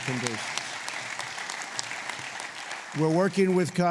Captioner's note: applause